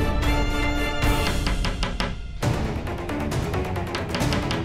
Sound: knocks on the door

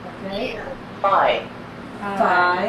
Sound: voiceover

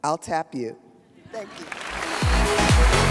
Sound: audience laughs; audience applauds; upbeat music

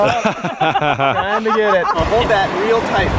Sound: laughing

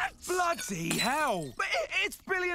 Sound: glass shatters

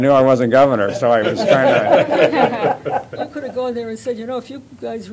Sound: laughter

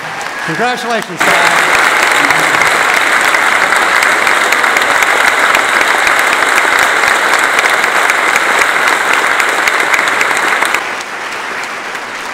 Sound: applause

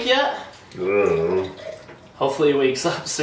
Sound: grunts

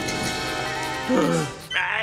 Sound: gasping

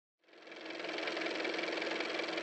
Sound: car motor

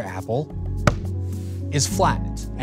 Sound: thump

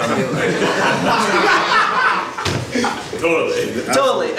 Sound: audience laughs

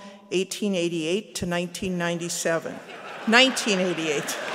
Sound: laughter

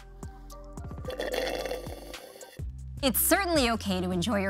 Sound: slurps straw

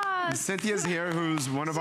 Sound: applause

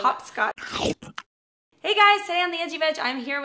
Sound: crunching

